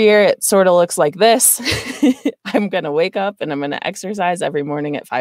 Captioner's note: laughs